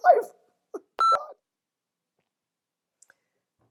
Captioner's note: beeping